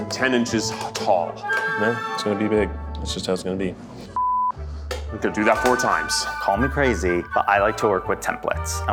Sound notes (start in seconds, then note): 4.2 beep